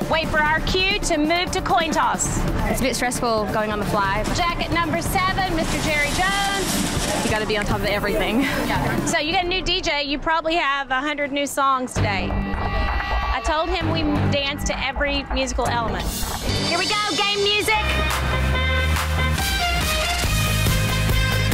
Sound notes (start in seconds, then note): 12.4 ominous music; 18.9 handClap